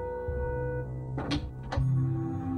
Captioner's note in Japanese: 扉が開く音：ガッチャン